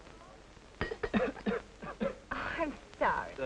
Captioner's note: clattering, coughing